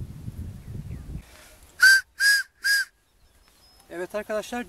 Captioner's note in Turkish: Tiz ve yüksek düdük sesi